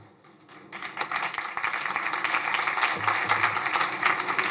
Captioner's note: crowd applauding